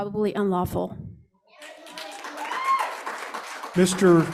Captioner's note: cheers, applause